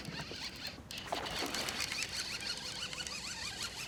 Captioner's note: reel cranking; fish splashing